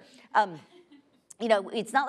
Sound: laughing

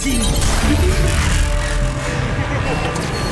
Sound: Mechanizer warbles

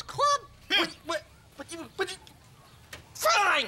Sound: pigeon stammers

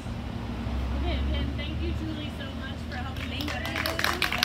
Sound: audience applause

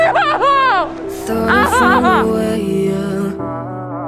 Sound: crying

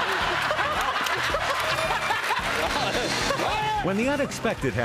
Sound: laughing

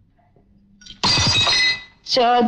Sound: glass shatters

